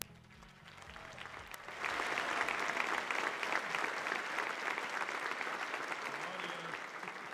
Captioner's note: applause